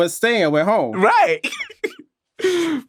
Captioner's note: chuckles